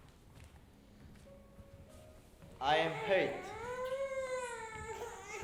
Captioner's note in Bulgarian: в публиката проплаква бебе